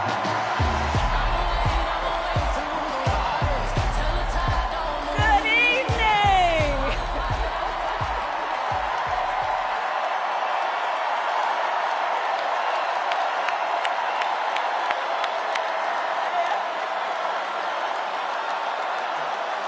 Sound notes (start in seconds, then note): 6.2 cheers and applause